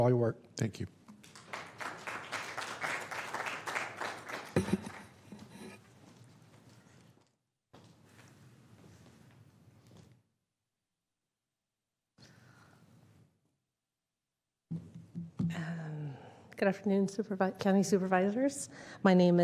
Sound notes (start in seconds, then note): 11.7 applause